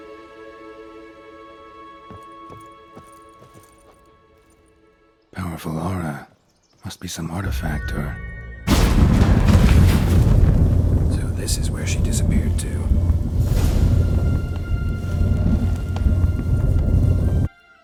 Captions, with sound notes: POWERFUL AURA. MUST BE SOME ARTIFACT, OR-- POWERFUL AURA. MUST BE SOME ARTIFACT, OR-- [skull hums] [loud whoosh, rumbling] SO THIS IS WHERE SHE DISAPPEARED TO.